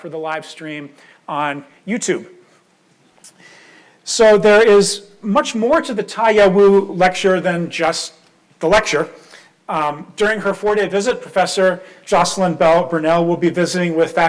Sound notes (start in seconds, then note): none